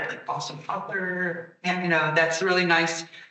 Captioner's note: attendee speaking softly